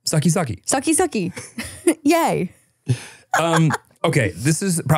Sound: laughs

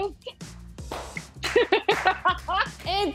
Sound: laughs

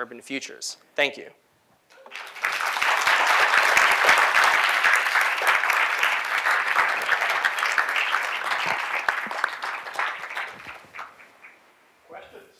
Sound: applause

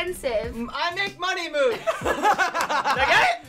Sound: all laugh

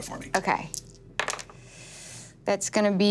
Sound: dice clattering

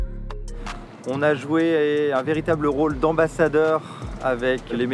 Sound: speaks in foreign language

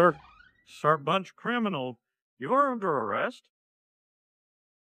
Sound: Hank Hill Voice

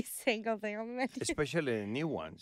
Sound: laughing

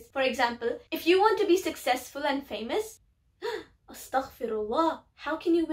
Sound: gasp

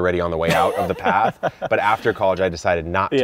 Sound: laughing

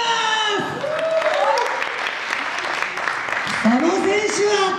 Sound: applause

